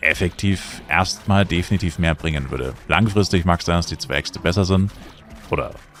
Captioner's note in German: schnauben